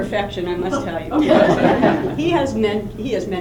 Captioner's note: laughter